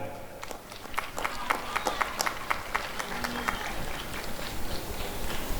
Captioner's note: applause and cheering